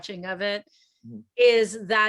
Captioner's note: none